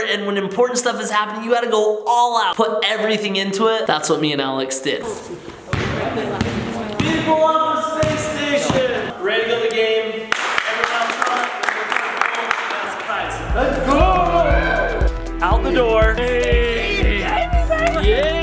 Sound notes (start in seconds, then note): 5.6 basketball dribbling; 10.2 group clapping; 16.4 group cheering